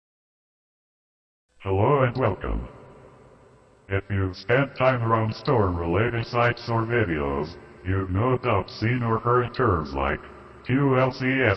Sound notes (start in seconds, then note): 1.5 computer talking